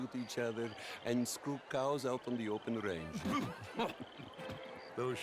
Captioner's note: laugh